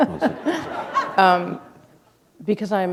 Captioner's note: chuckle